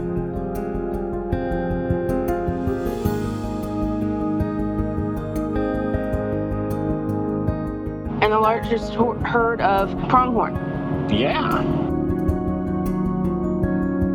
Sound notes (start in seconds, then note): none